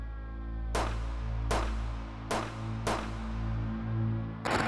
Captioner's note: gunshots crackling